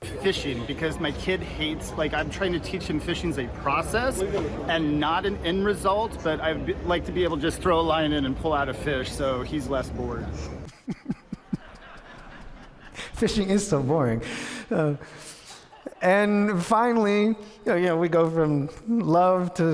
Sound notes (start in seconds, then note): 10.6 audience laughs; 12.4 laughs